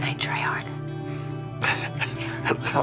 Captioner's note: Luke laughs